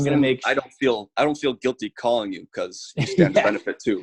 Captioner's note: laughing